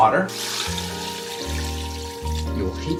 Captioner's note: water pouring